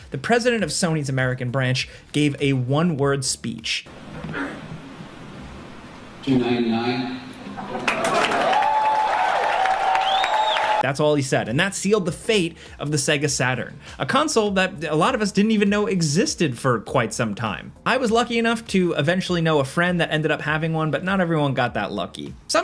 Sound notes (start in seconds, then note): 7.6 audience applauding; 7.6 audience cheering